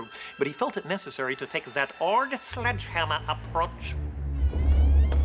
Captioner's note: with German accent